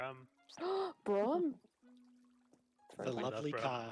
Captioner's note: gasps!